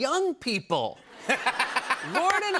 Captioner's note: laughter